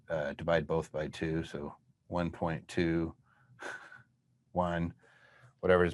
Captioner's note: chuckles